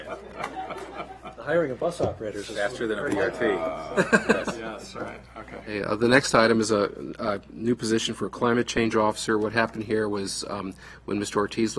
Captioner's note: laughter